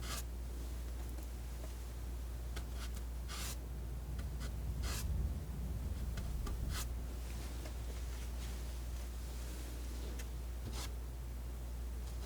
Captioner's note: scratching